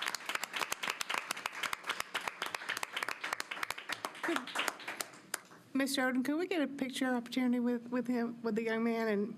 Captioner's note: applause